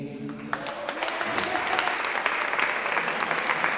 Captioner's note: clapping